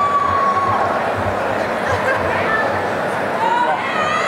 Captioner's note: cheering and applause